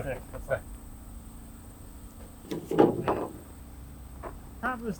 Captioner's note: wood clanking